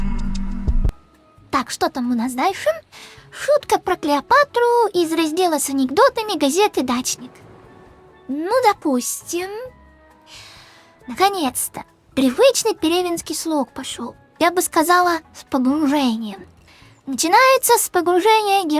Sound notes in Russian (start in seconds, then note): 10.2 Вздох